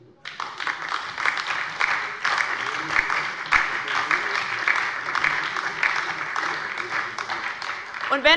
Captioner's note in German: Beifall bei der LINKEN und der SPD